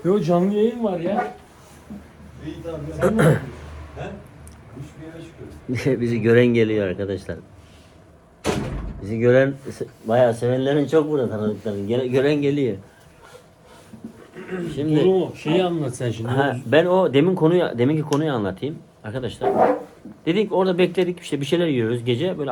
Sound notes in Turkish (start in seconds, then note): 3.0 boğazını temizler; 14.1 boğazını temizler